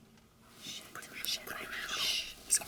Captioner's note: whispering